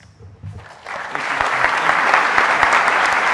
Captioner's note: audience applauding